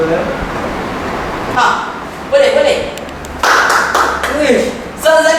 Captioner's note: claps